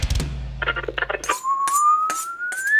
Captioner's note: whistles